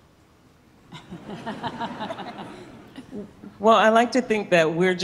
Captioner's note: audience laughing